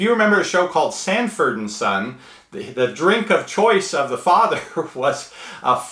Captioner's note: laughs